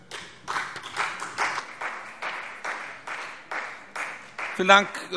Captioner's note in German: Beifall CDU und vereinzelt BÜNDNIS 90/DIE GRÜNEN